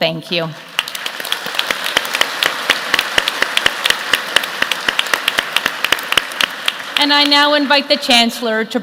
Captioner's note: applause